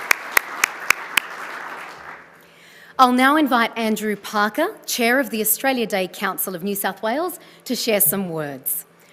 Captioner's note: applause